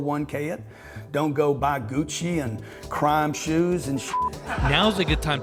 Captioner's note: beep